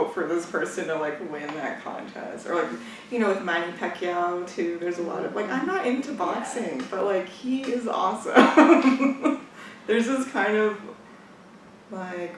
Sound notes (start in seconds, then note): 8.4 laughs